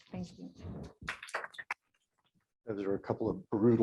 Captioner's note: applause